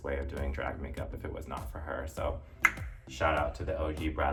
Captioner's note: tongue clicking